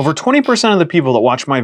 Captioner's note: buzzer